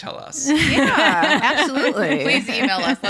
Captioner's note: laughs